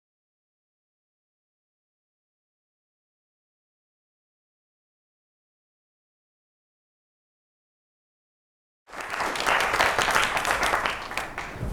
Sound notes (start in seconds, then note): 8.8 applause